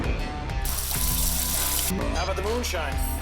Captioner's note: water burbling; food sizzling